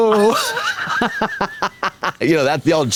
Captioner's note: Katya giggles